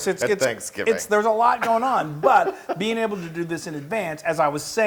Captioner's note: laugh